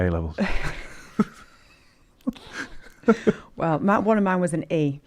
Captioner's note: laughs